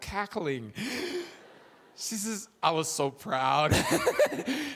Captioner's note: chuckles